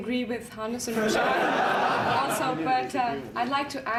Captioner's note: laughter